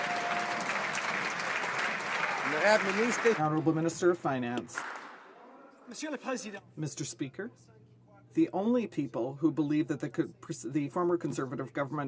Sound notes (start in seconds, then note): 2.8 some Applause